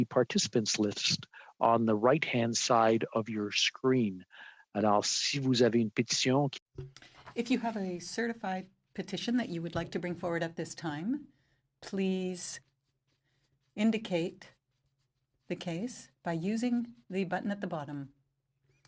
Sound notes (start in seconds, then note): 9.6 speaking French